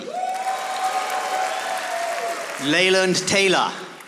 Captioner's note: audience applauding